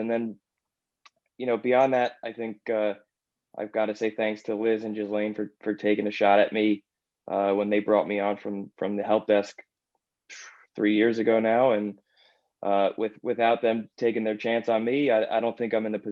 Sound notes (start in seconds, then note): 12.0 exhale